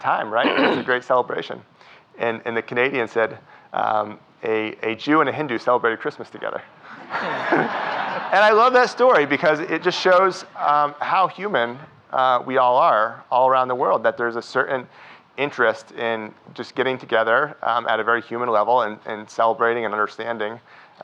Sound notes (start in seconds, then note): 6.9 audience laughing